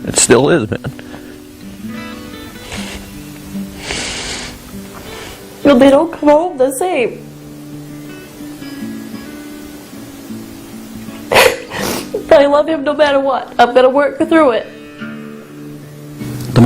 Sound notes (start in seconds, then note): 1.7 emotional music; 11.3 sobs